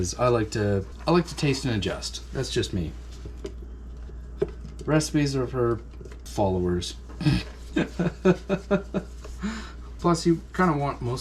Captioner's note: laughter